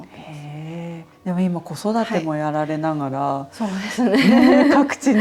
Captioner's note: laughs